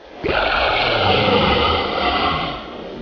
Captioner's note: snarling